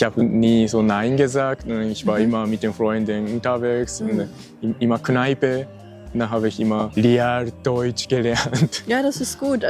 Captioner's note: laughs